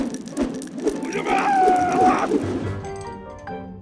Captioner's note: screaming